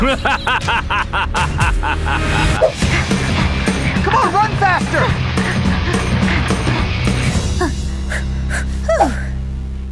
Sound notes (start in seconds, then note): 0.0 evil laugh; 5.3 Angela panting